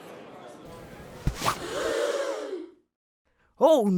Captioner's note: audience murmuring; audience gasps